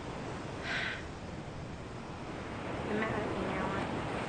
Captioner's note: exhales loudly